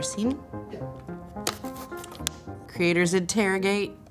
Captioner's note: slate clap